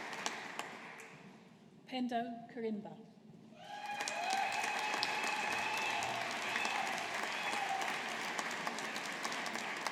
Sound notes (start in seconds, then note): 3.6 audience applauding